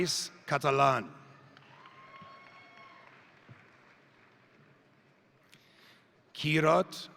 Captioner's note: crowd cheering; crowd applauding